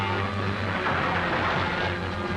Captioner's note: crash